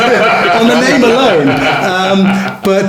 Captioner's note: laughing